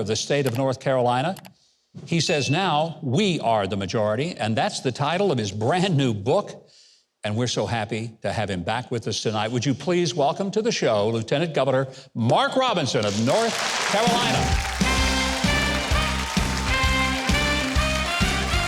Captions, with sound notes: of the state of North Carolina. He says now, "We Are The Majority!" And that's the title of his brand new book. And we're so happy to have him back with us tonight. Would you please welcome to the show Lieutenant Governor Mark Robinson of North Carolina. (audience applauding) (upbeat music)